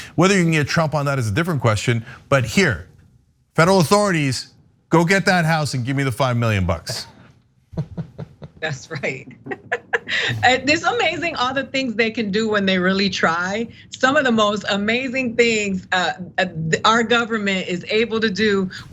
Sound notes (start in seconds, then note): 7.8 laugh